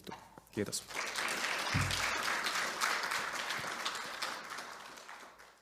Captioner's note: applause